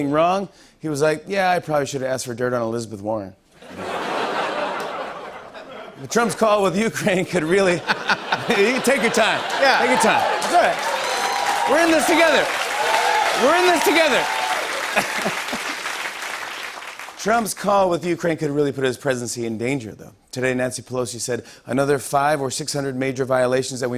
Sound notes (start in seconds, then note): 3.6 laughter; 14.6 laughs